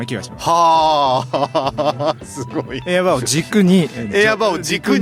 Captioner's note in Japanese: 笑い